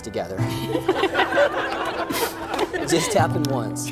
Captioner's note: everyone laughing